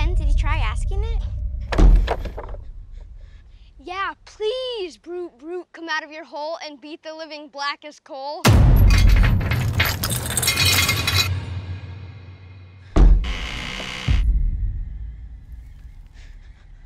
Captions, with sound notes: - Yeah, Ben, did you try asking it? (thudding) - Yeah, please, Brute Brute, come out of your hole, and beat the living black as coal. (chain rattling) (door creaking)